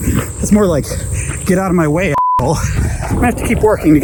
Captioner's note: beep